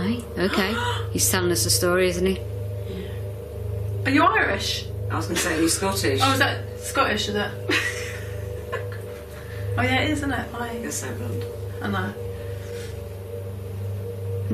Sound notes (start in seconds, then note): 7.7 laughing